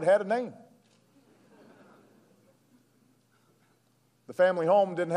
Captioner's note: laughter